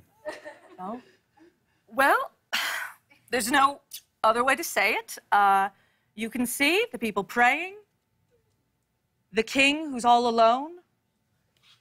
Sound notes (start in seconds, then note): 2.1 sighs